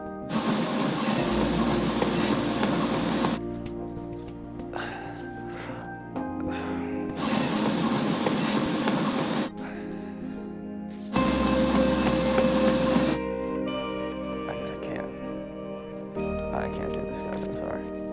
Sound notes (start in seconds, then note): 0.2 treadmill whirring loudly over dramatic electronic music; 4.7 Drew sighing; 7.1 treadmill whirring loudly; 9.6 Drew sighs; 11.1 treadmill whirring loudly